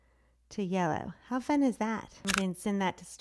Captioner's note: clicks